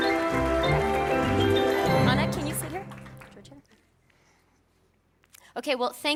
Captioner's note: applause